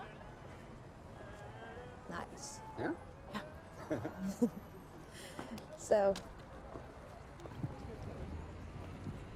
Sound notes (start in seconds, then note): 3.7 laughter